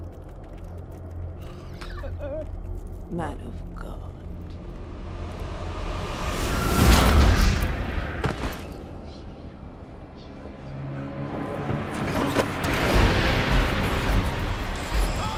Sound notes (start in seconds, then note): 5.3 tense music; 9.1 demon speaking in tongues; 13.4 tense frightening music